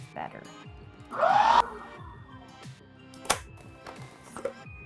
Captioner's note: whirring